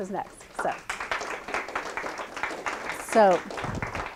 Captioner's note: applause